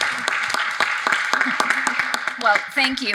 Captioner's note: audience applauding